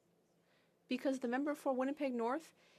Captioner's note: speaking FRENCH